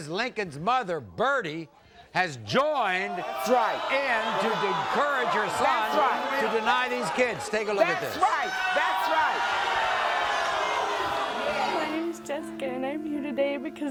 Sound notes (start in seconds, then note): 9.6 audience boos